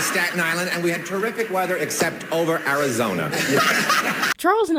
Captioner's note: Brett Somers cackling